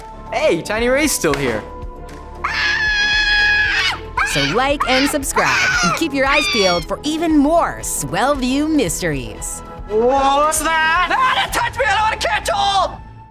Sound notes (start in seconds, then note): 2.4 screaming